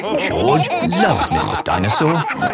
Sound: all laughing

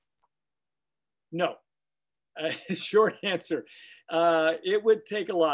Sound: chuckling

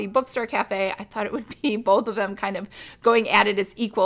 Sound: chuckles

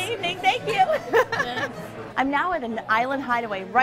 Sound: laughter

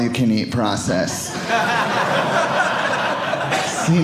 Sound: audience laughing

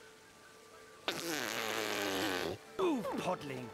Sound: blows raspberry

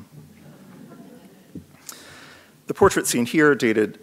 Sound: audience laughs

